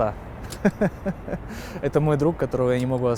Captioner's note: laughs